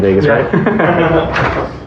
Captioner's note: lauaughghter